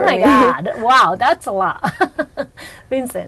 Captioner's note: laughs